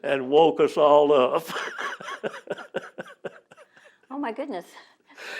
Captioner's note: laughs